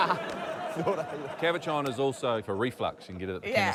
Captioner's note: laughter